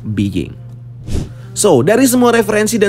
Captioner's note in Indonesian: suara transisi